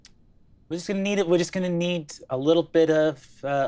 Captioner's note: none